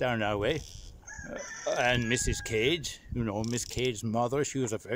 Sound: cock crow

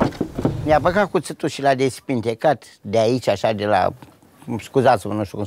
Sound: speaking in foreign language

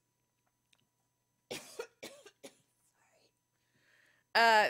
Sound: coughing

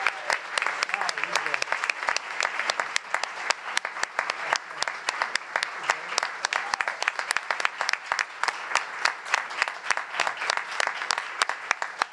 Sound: applause

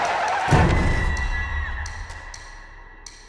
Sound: scream

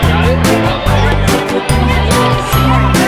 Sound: indistinct chatter

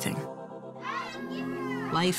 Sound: kids shouting

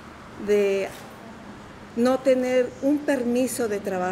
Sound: people tearing cloth apart; speaking in Spanish

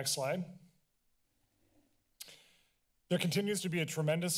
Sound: clicks tongue; silence

